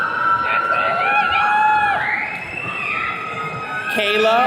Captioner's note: attendees cheering